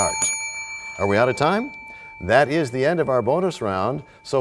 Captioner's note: bell rings, time expires